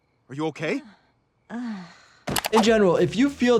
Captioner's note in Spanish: gime